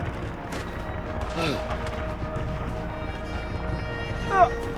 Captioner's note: groaning